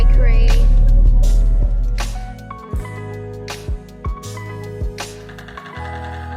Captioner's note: engine noise fades out again as music continues